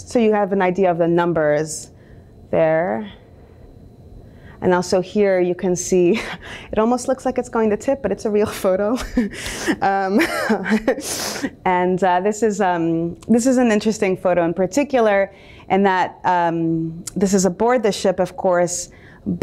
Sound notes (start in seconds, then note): 5.9 chuckles; 10.1 laughs